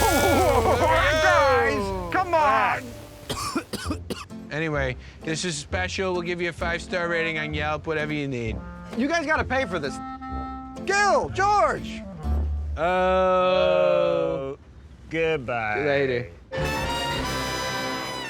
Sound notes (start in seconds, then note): 3.2 coughs; 16.5 jazz music plays